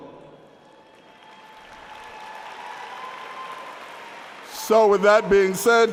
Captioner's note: applause